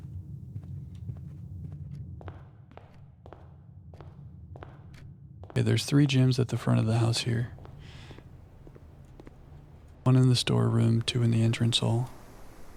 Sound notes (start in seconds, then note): 0.0 footsteps